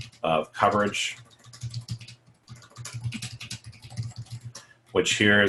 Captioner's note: typing